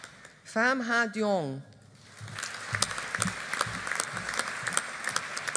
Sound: audience applauding

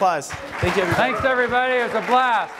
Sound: applause

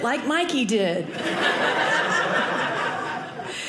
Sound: audience laughing

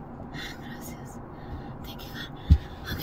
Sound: Janet speaks Spanish

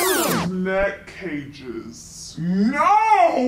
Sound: rewinding sound

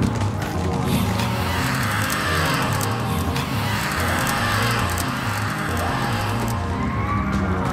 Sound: creature screams

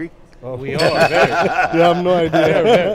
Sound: all laughing

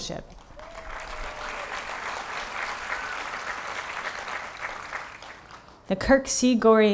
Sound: applause

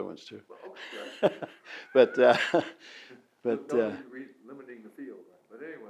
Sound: laughs; both laughs

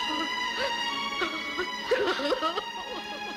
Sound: crying

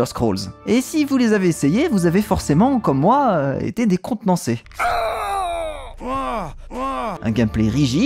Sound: ridiculous cries

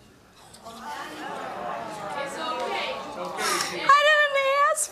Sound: audience groans

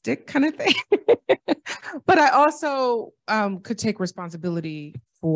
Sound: laughter

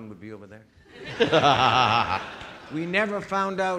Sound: audience laughing

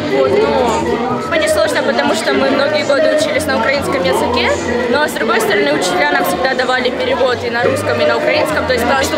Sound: to speak in Ukrainian

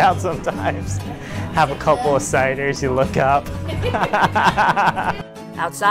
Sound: laughs

